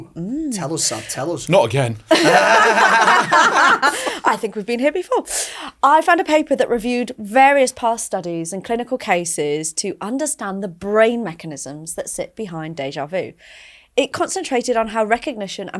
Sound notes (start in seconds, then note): 3.6 laughing